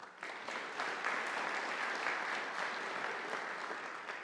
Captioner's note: audience applauding